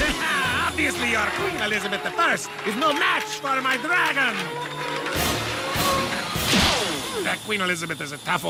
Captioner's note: laughs